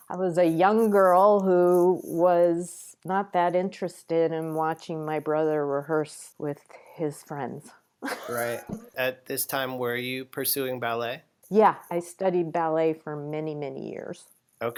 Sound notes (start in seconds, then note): 8.1 laughs